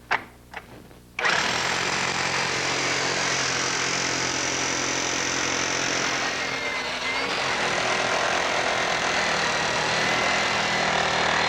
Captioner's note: drilling